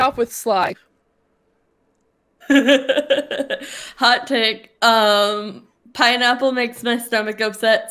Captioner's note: laughs